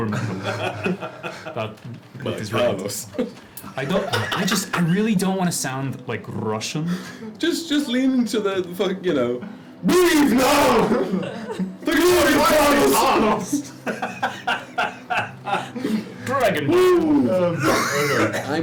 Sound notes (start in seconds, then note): 11.8 shouts; 13.8 laughs, then coughs